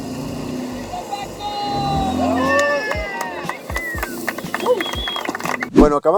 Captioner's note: cheering